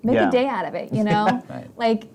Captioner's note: laughs